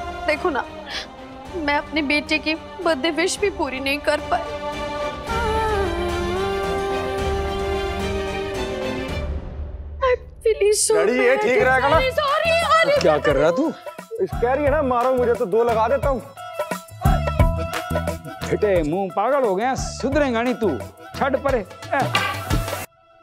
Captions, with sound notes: Just see, I couldn't fulfil my child's birthday wish. [emotional vocalising] - I'm really sorry. - Father, is this fine? - Sorry! - What are you doing? She's telling us to hit her. So, I'll give her a few whacks. What rubbish! Have you gone mad? Won't you ever reform? Leave this!